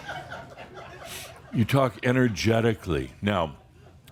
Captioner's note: some laughter